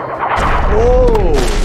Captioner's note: barrel explodes